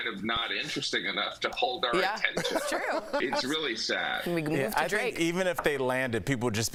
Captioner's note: laughter